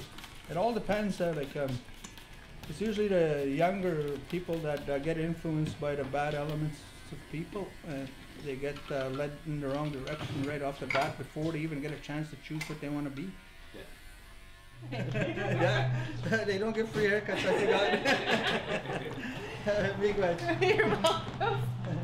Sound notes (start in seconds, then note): 15.4 laughs; 19.3 laughter